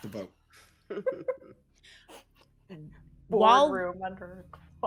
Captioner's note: people giggling